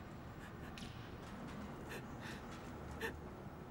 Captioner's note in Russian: Мама плачет